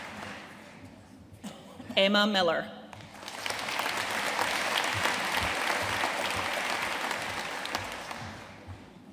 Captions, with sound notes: Emma Millar. (AUDIENCE APPLAUDING)